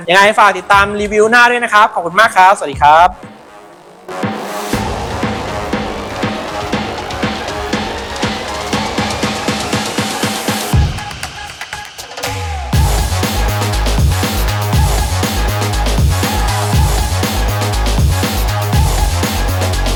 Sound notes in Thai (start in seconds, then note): 11.0 ปรบมือ